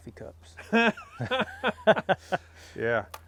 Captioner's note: laugh